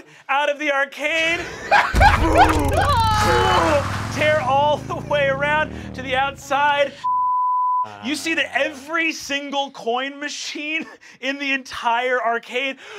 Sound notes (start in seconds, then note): 1.2 laughing; 1.9 engine humming; 7.0 beep